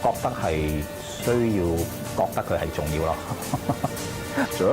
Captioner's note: laughs